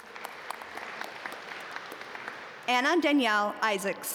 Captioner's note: audience applaud